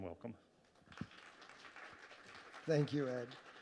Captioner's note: audience clapping